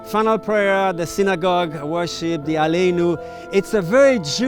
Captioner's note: speaking in foreign language